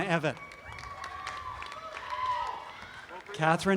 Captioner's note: audience cheering continues